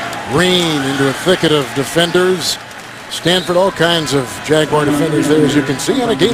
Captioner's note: crowd yelling